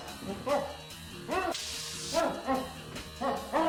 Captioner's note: electric shock